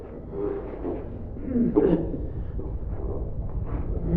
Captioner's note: choking